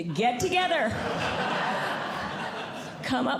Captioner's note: audience Laughing